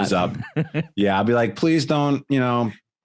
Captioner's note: laughs